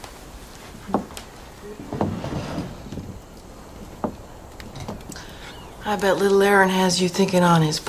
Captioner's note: sighs